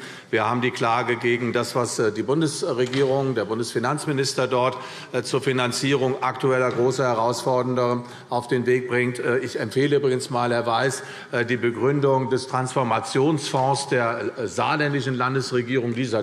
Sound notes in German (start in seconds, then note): none